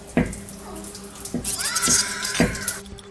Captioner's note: moans and sound of bed rocking; shrieker noise